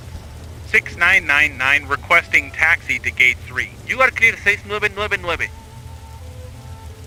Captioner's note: Spanish